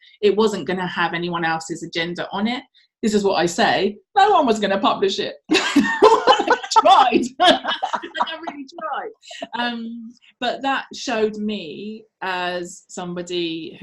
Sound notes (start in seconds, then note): 5.6 laughs